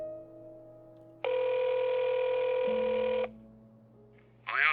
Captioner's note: phone ringing